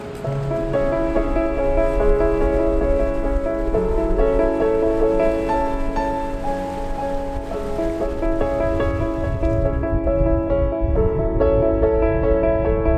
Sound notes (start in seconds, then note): 3.2 waves splashing; 9.8 wind blowing